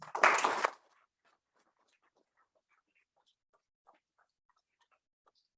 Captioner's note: audience applauding loudly